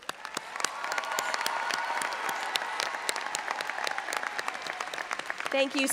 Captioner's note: audience applauding and cheering